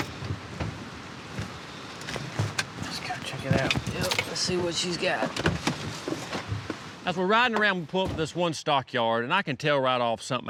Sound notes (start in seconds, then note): 1.2 engine cuts off; 7.3 truck doors open